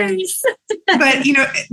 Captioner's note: laughs